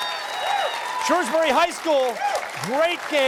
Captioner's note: cheers and applause